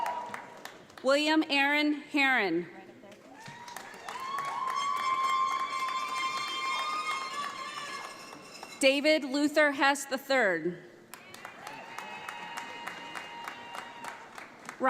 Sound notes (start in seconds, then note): 3.3 audience applauds; 11.1 audience applauds